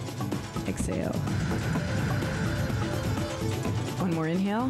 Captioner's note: breath hisses